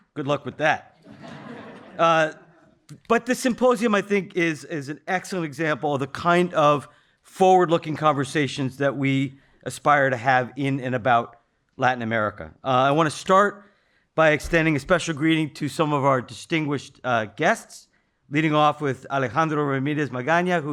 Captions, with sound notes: Good luck with that. (audience laughing) But the symposium, I think, is an excellent example of the kind of forward-looking conversations that we aspire to have in and about Latin America. I wanna start by extending a special greeting to some of our distinguished guests, leading off with Alejandro Ramirez Magana,